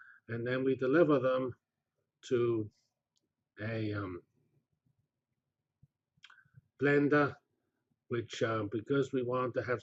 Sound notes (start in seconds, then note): 4.5 pause